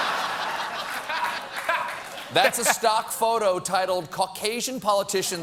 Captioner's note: laughter